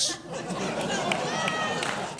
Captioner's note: laughter